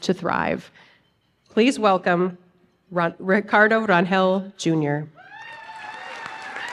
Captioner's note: applause